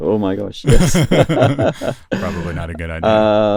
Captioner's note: laughter